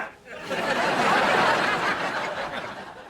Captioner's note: laughs